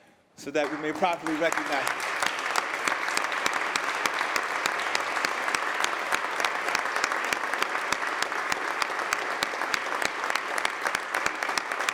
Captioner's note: applause